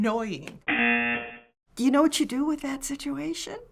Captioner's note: buzzer